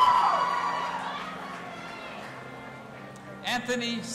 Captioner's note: audience applauding and cheering